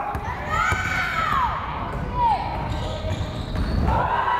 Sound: fans shouting

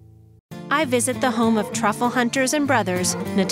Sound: voiceover

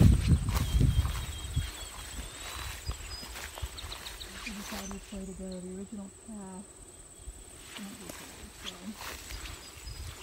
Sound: sound of footsteps

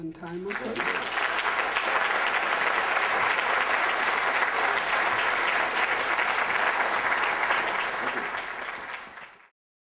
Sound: applause

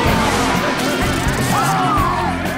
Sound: gasping

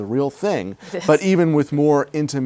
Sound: laughs

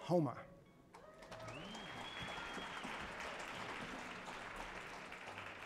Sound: audience cheers and applauds

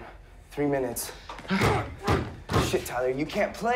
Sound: punching door

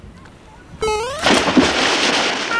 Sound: splash

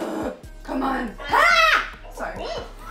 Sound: screams; laughs

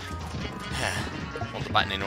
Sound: sigh

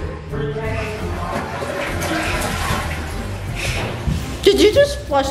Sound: toilet flushing

